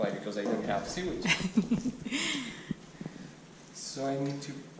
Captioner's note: laughing